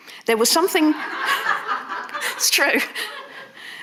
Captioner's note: audience laughing